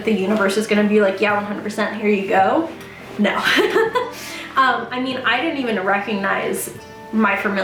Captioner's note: laughs